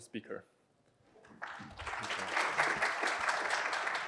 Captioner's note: applause